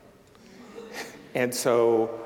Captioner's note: audience chuckling